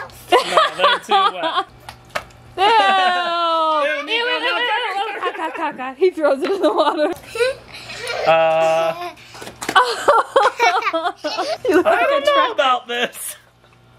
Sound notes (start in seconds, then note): 2.6 laughs; 7.6 laughing